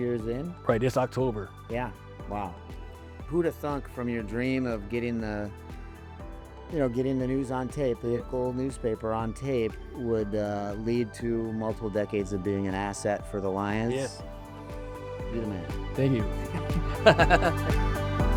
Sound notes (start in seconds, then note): 16.5 laughs; 17.3 upbeat music plays